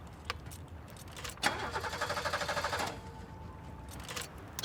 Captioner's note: engine fails to start